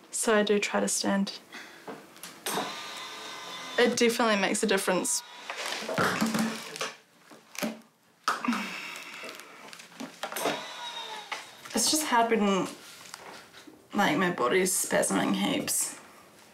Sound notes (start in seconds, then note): 9.4 grunts; 10.3 whirring